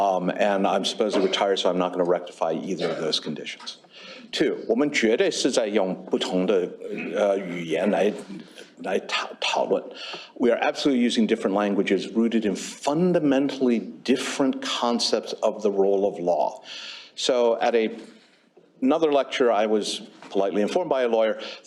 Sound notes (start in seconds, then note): 4.4 non-english